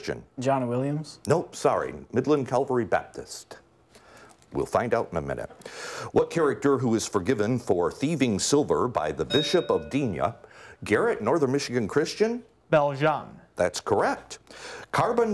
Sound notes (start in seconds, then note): 9.2 bell rings